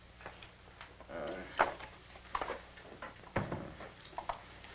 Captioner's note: murmuring